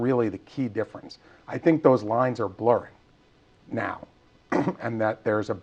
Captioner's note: cough